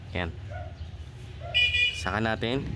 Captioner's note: car honking